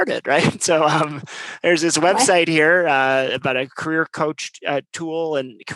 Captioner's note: laugh